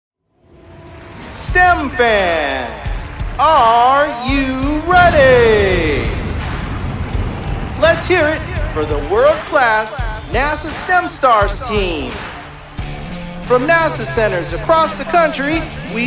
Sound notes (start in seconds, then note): 5.8 crowd cheering; 5.8 energetic music